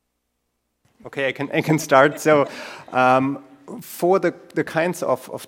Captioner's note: laugh